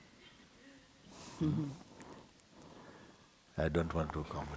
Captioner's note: questioner chuckles